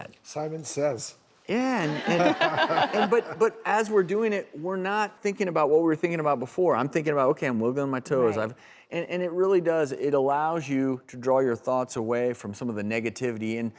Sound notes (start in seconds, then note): 1.8 laughter